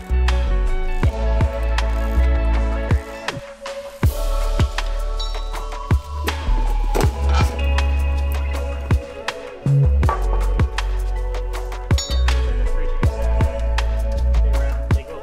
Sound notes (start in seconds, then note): 3.9 background chatter; 3.9 tools clanging